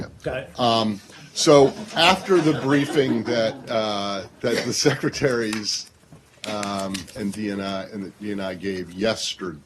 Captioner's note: laughter